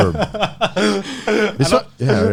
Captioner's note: Garnt laughing